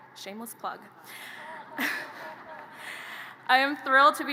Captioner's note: audience laughter